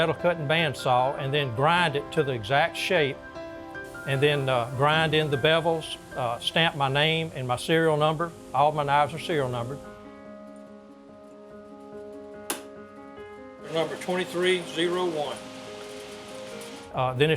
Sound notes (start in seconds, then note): 12.5 hammer tap